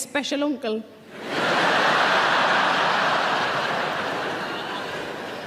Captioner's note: audience laughing